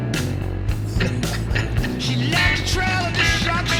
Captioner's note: Buck laughs